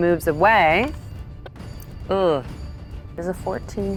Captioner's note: die rattling; groans